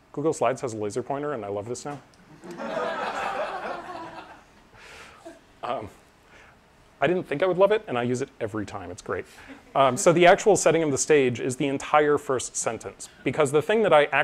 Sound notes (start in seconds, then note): 5.6 laughter